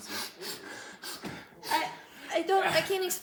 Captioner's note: intense sniffing